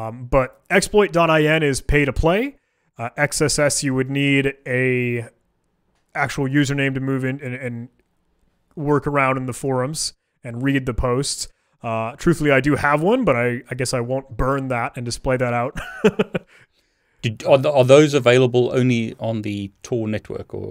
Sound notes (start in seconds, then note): 15.7 laughing